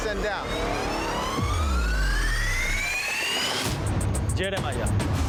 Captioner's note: suspenseful whir